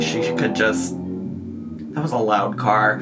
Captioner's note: car whirs